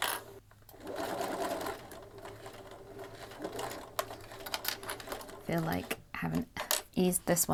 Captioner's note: sewing continues